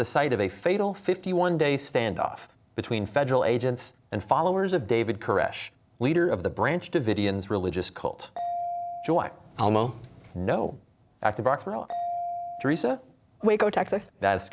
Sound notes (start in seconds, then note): none